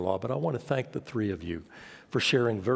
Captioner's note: none